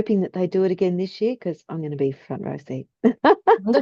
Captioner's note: laughs